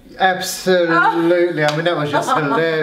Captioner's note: laughing